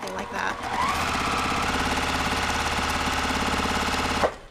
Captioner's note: machine sewing